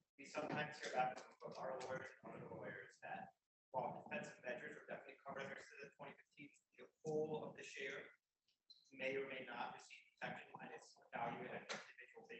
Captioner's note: speaking off mic